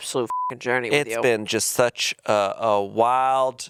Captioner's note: beep